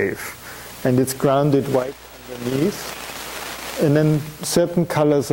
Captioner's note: audio static